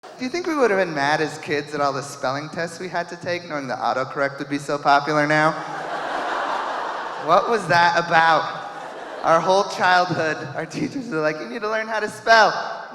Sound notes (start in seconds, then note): 5.3 audience laughing